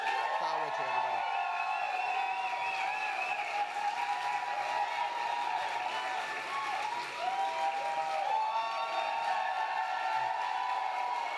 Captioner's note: applause